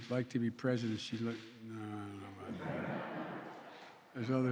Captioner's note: laughter